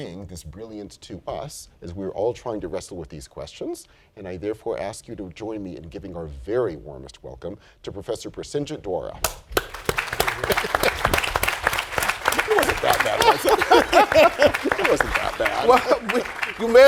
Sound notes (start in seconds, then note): 9.2 applause; 13.9 laughter